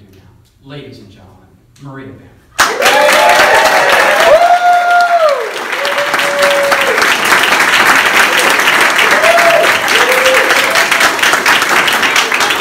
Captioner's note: applause